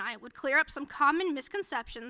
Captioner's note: none